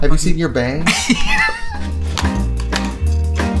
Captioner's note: laughs; soft music